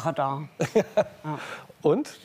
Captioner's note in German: Lachen